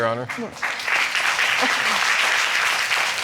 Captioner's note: audience applauding